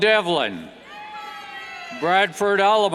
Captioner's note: cheers